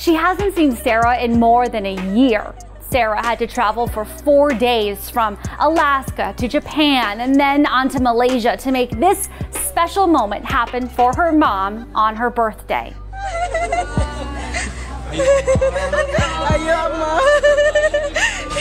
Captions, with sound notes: She hasn't seen Sarah in more than a year. Sarah had to travel for four days from Alaska to Japan, and then onto Malaysia to make this special moment happen for her mom on her birthday. (Sarah's mom cries)